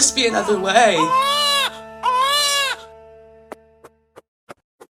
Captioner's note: baby Cry